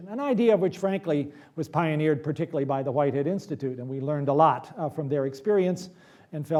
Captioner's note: none